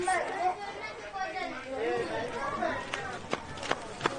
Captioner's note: kids chattering